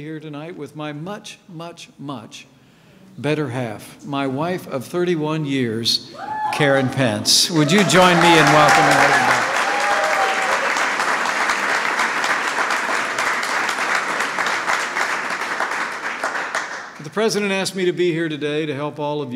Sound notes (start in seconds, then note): 11.9 applause